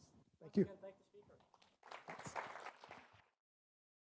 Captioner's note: applause